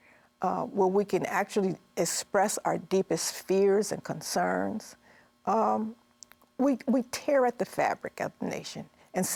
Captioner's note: none